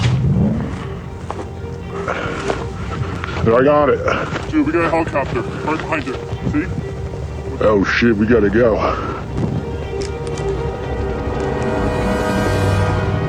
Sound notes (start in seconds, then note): 3.4 deep Voice; 7.8 deep Voice; 10.1 foreboding music